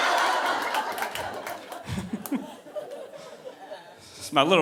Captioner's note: audience laughing